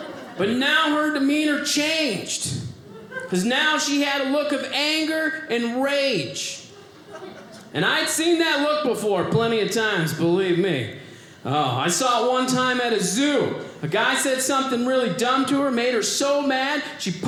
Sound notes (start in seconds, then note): 6.6 audience laughing